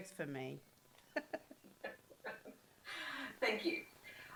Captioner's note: laughter